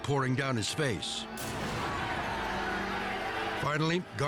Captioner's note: fans shouting in foreign language